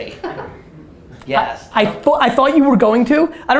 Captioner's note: laughs